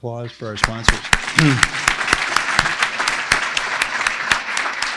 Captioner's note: applauds with crowd